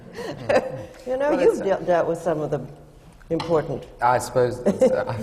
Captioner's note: laughs